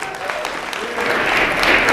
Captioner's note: applause